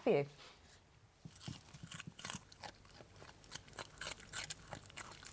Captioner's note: crunching